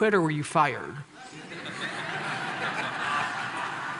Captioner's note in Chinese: Laughter; 笑聲